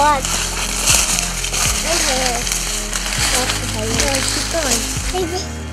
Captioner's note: sound of walking